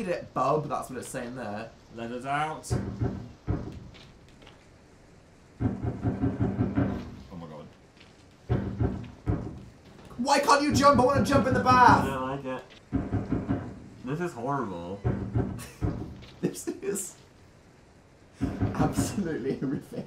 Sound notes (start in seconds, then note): 2.6 knocking; 5.5 creepy Banging; 8.4 banging continued; 16.1 wheeze; 18.2 inhale